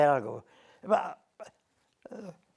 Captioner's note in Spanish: Ruido de esfuerzo